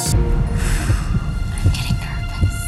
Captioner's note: dramatic music; exhales